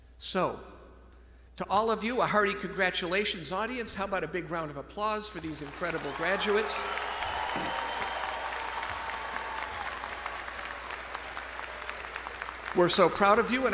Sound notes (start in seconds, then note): 7.2 all clapping; 7.2 audience cheering